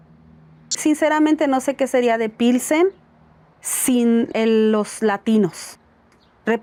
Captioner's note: speaking in Spanish